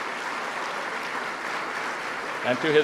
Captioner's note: applause